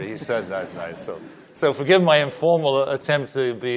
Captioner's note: laughing